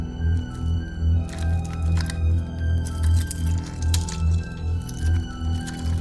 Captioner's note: suspenseful music continues; items rustling